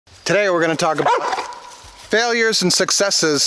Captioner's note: barking